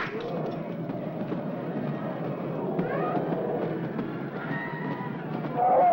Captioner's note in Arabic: أقدام الفيل تدوس; زئير الفيلة